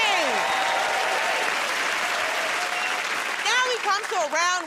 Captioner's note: cheers and applause